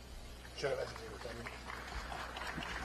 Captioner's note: applause